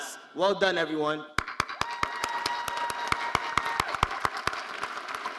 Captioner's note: all applauding